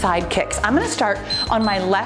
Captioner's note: timer beeps